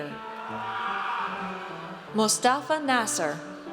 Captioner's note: audience cheers